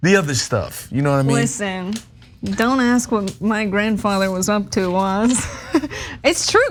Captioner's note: laugh